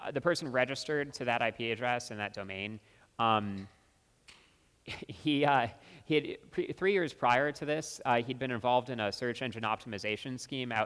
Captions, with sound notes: The person registered to that IP address and that domain, (laughs) three years prior to this, he'd been involved in a search engine optimization scheme